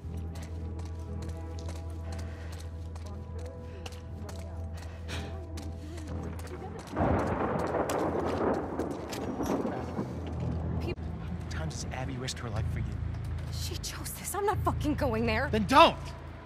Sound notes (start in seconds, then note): 4.9 gasp